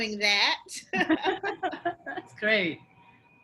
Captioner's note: laughs